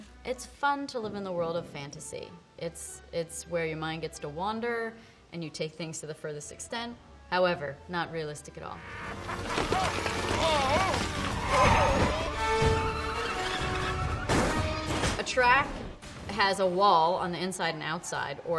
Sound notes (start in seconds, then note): 9.0 maniacal laughter; 12.3 cars crashing; 12.3 tires screeching